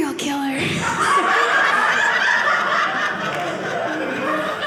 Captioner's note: audience laughing